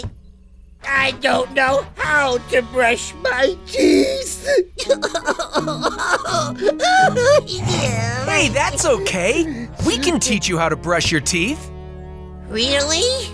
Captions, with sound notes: I don't know how to brush my teeth! [sobbing] Hey, that's okay. We can teach you how to brush your teeth. Really?